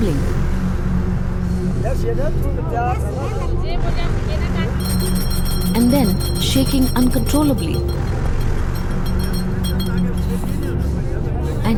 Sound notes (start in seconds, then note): 0.2 mysterious music; 4.6 intense bell jingling; 7.8 mysterious music